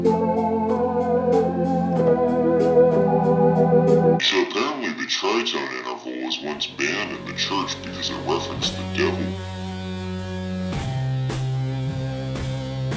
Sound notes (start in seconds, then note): 4.2 distorted voice